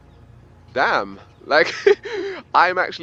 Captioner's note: laughs